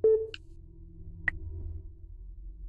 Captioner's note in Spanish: Pitido